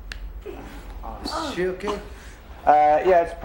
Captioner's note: groans and mumbles; cracking noise